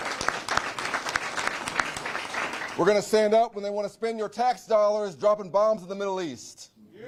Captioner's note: applause